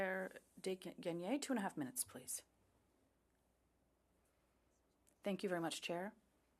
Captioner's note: speaking French